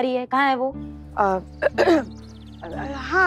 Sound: clearing throat

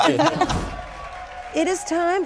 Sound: group laughs; crowd cheers and claps

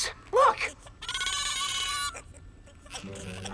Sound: screeching

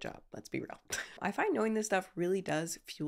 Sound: laughing

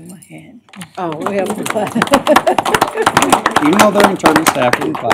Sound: applause

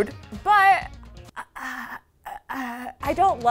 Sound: stammering

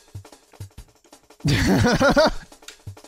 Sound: goofy laugh

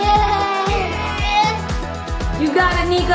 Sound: giggling; grunting

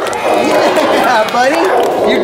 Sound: group applauds and cheers

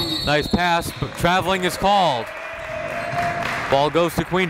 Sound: whistle blows; applauding

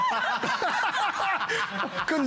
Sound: laughter

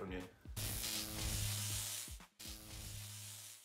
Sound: electric buzz

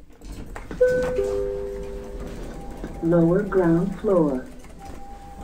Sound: chime

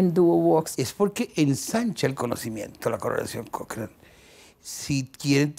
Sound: Spanish

